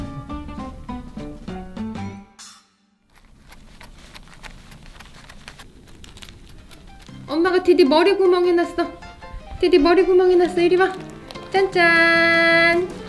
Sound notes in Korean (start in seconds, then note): 3.1 비닐 자르는 소리